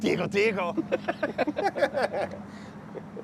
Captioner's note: laughing